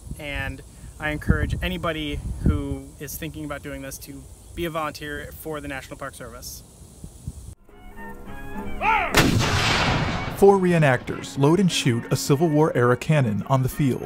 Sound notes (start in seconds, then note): 9.2 machine fires; 10.8 classical music